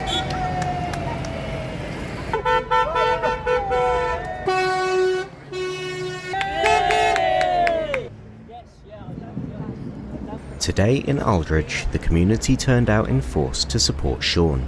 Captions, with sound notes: [Horn honking] [Cheering] Today in Aldridge, the community turned out in force to support Sean.